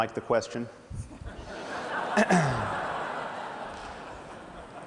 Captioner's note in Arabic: ضحك